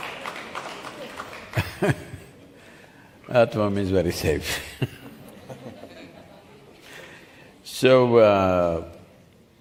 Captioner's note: laughter/Applause; few laugh